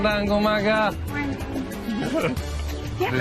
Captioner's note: chuckles